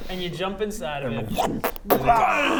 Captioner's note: whumpfh